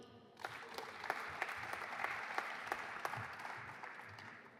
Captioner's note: audience applauding